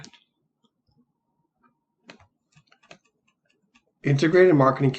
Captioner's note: computer keys clicking